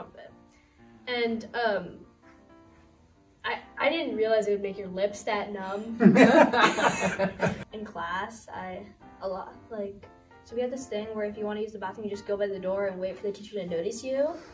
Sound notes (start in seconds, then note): 6.0 all laugh